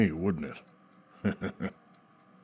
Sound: giggles

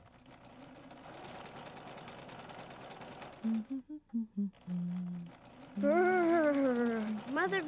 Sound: humming

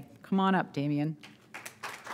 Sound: applause

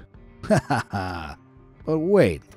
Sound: narrator laughs

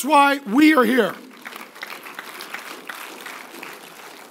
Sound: applause

